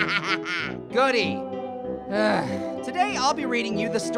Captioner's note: laughing; groans